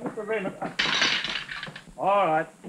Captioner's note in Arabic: أطباق تهتز